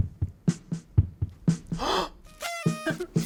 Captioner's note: gasps